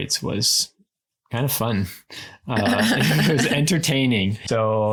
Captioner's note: laughs